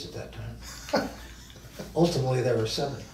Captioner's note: laughs